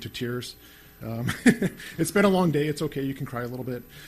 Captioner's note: laughs